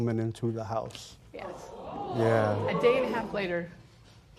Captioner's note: spectators murmur